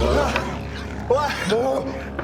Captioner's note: noises of regret